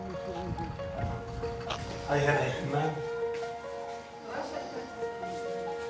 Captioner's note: man and woman speaking foreign language